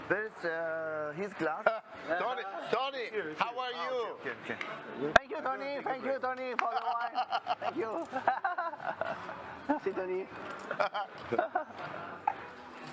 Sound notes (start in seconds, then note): 6.6 laughs; 10.6 laughter